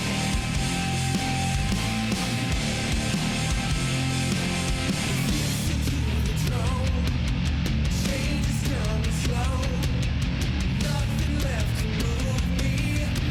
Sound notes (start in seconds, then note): none